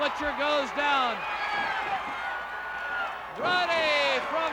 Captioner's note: crowd cheering